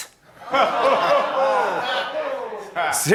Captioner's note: laughter